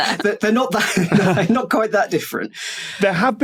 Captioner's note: laughs